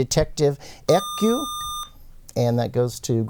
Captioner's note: buzzer